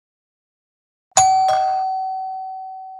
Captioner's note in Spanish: suena el timbre